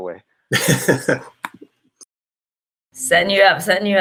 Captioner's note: giggles